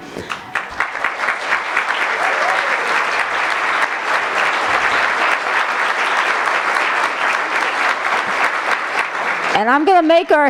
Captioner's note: applause